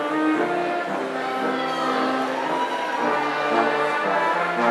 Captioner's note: audience cheering